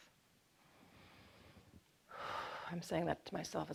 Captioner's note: inhales deeply